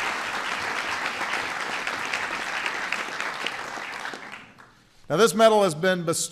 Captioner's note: applause